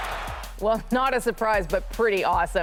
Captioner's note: cheers and Applause